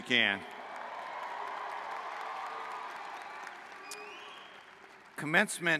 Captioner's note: cheers